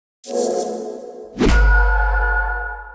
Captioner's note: whoosh